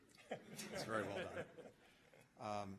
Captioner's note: laughter